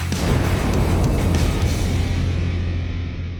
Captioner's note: flames whooshing; upbeat metal music ending